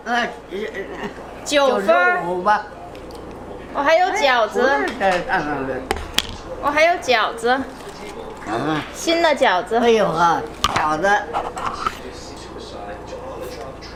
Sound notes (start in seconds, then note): 1.6 grandma speaking Chinese; 3.7 speaking Chinese; 10.1 grandma speaking Chinese